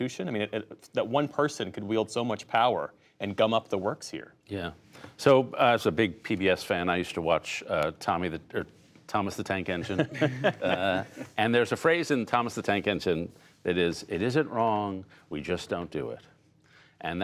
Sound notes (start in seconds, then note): 9.8 laughter